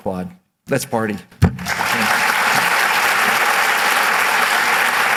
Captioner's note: applause